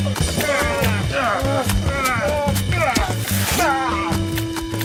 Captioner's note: spirited upbeat music continues; Brett and Cole exclaiming